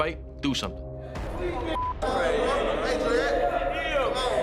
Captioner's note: inmates clamoring